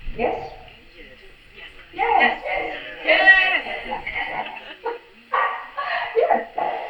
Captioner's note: public screams "YES"; laughs